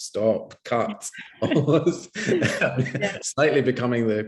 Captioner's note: laughing